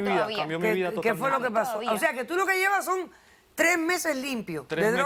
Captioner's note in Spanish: Hablan al unísono